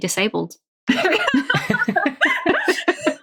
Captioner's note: laughing